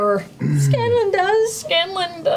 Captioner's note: tearfully